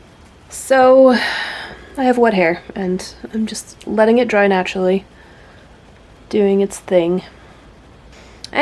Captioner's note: sigh